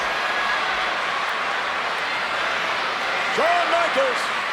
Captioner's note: crowd vocalizing